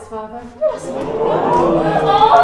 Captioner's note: crowd oohing